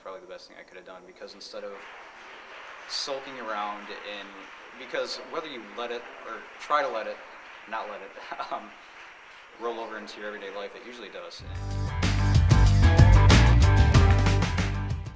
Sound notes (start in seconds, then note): 8.0 laughing